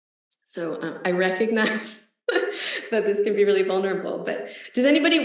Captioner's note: laughs